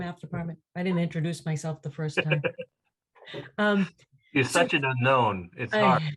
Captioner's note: laugh